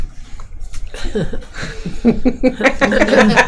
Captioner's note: laughing